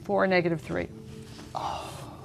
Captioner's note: sighs